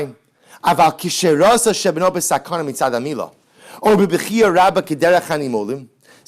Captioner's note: Hebrew